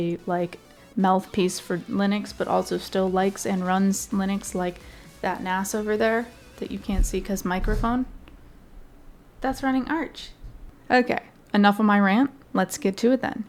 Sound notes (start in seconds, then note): none